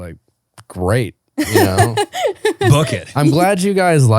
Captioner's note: laughs